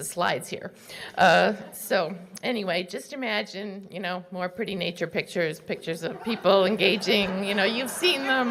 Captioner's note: laughing